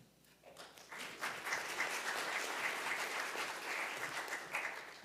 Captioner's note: audience applauding